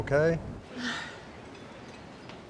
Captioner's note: sighs